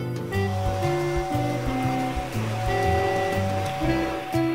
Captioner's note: train whistle